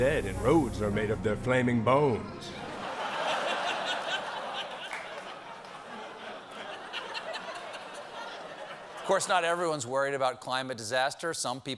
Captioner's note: laughter